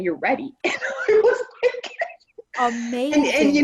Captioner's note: laughter